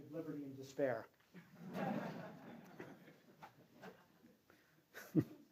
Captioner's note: laughter